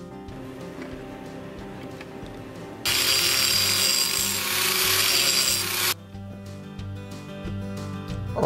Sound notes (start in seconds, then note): 2.8 grinding metal; 5.9 light guitar music